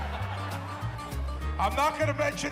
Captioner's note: audience laughing; gentle upbeat music